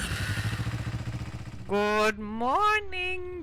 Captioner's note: bike revving